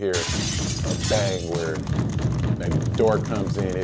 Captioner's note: glass shatters; door banging